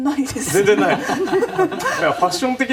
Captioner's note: all laugh